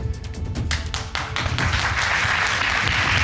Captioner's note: crowd clapping